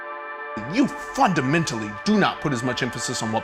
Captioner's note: male Voice